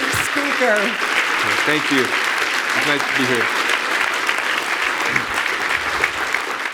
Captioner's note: audience applauding